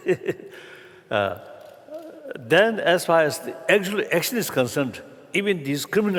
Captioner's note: laughter